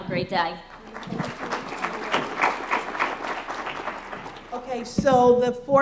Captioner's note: applause